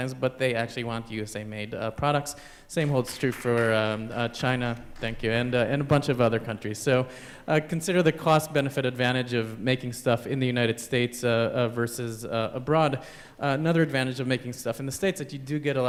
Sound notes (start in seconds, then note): 4.9 applause